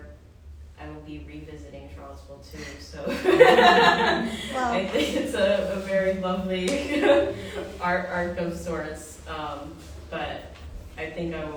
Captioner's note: laughter